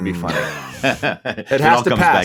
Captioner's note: Paul laughs